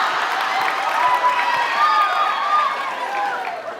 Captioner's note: applauds, cheers; laughs, applauds; laughs